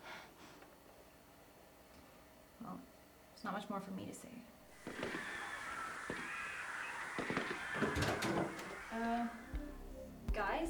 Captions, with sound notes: Well, there's not much more for me to say. *Screaming and Gun Fire Happen in Background* *Door Opens* Uh, guys?